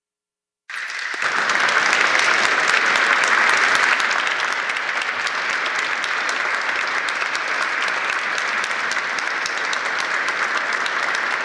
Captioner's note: applause